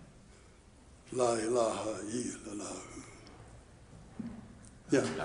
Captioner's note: chanting in foreign language